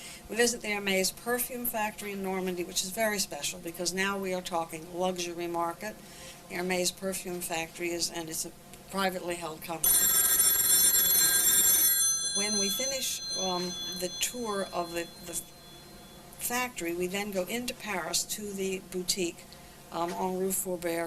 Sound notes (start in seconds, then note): 9.8 phone rings